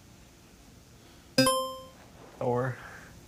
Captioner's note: buzzer chiming